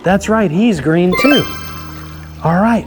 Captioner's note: chimes ringing